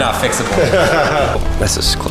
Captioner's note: laughing